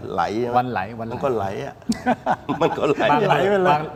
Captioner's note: laughs